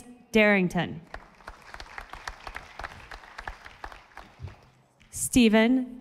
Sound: audience applauding

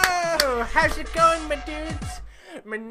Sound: inhale

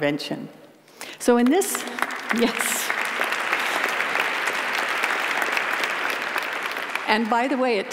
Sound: applause

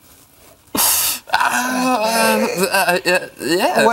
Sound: laughing

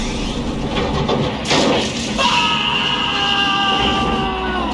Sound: explosion

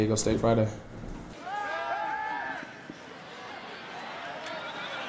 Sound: cheering

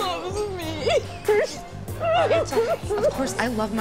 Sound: sobbing

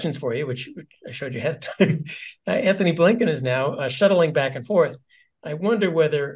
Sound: laugh

